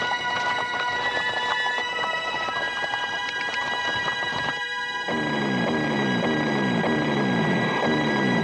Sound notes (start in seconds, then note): 5.1 zooming